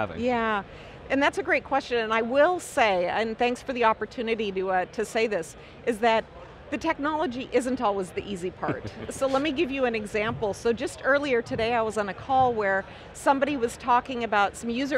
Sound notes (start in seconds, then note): 8.6 laughs